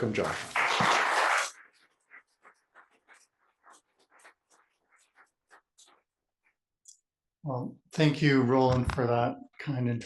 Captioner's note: applause